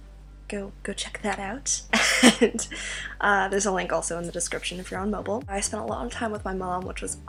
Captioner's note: laughs